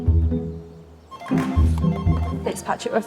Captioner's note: upbeat music; telephone ringing